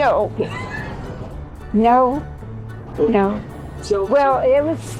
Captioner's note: laughter